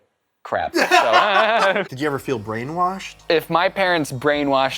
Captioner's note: laughter